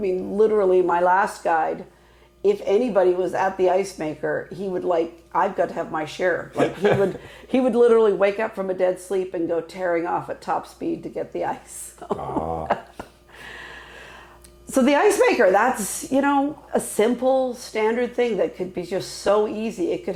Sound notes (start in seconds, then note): 6.5 laughing; 12.0 laughing